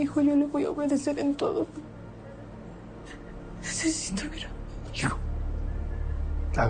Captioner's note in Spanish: none